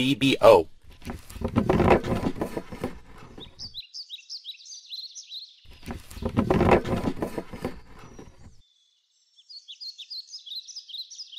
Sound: birds

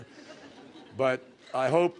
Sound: laughter

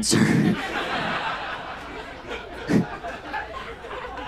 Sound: audience laughs

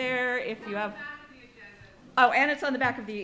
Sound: woman speaks off mic

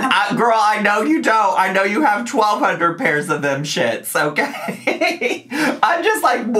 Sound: laughs

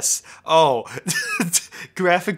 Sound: laughing

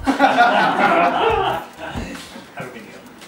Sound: laughs

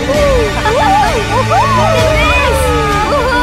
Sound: screams

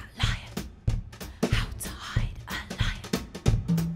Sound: whisper

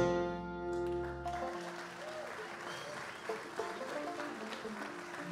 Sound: audience cheers and applauds

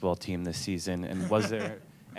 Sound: laughter

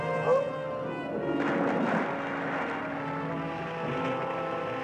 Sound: splashing; dramatic music

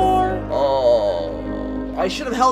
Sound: frustrated groan

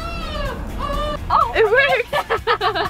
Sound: crying; girls giggle

